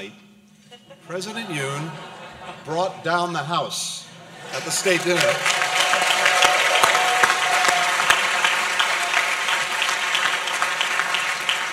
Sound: laughter; applause

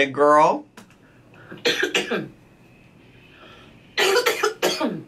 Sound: coughs

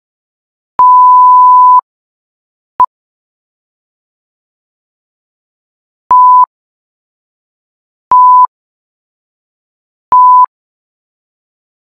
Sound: beeps

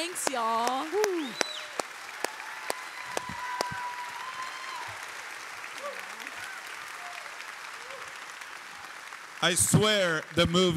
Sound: applause

